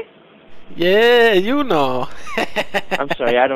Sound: laughs

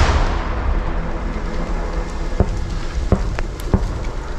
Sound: mortar shelling

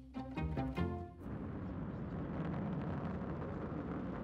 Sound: rocket fire

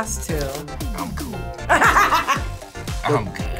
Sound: laughs

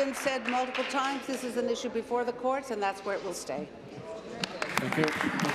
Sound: applause

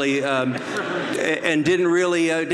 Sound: audience laughs

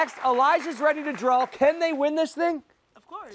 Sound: cheers and applause

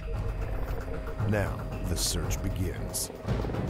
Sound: helicopter blades

